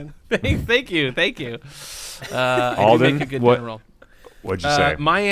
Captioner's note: laughter